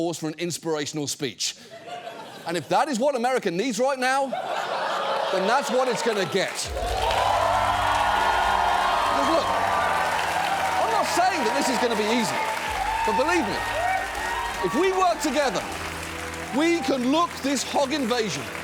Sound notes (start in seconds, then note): 4.2 studio audience laughing; 6.7 studio audience cheering, applauding